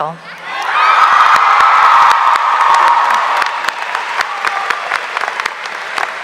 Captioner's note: audience cheering; audience applauding